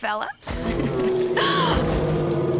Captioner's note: growling; gasping; roaring